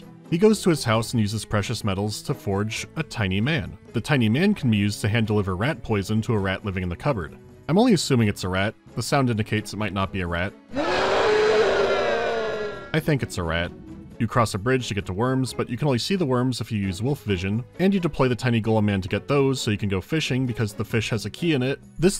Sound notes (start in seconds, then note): 10.7 ferocious roar